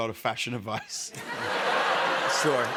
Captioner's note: laughter